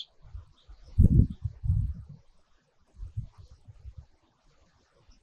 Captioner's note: birds chirping